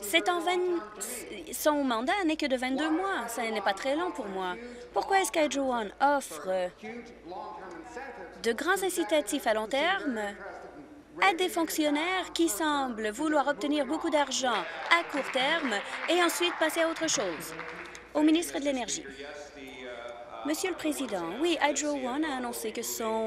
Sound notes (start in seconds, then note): 18.2 applause